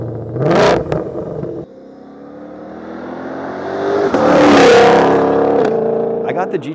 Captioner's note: V8 engine revs; car flies